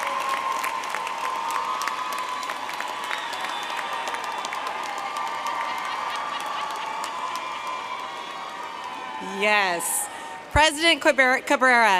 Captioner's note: cheers and applause